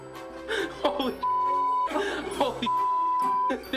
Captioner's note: beep